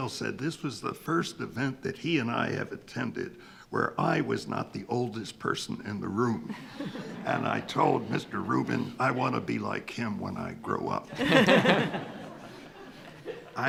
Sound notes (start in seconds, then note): 6.4 attendees laughing; 11.0 attendees laughing